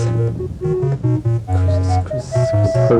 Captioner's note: whispering